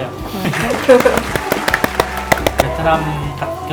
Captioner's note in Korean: vỗ tay